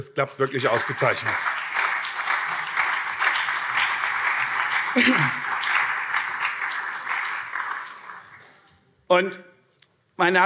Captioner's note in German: Beifall CDU und SPD